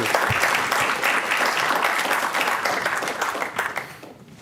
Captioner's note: applause